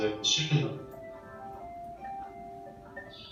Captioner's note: cellphone rings